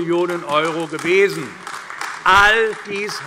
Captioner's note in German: Beifall AfD